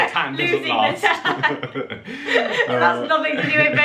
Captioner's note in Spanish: risas